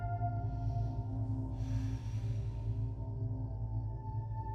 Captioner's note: breathes deeply